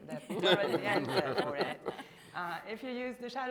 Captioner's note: group laughing